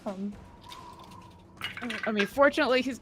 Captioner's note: dramatic music continues; wind whooshing loudly; dice rolls